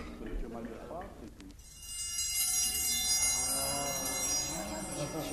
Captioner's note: bell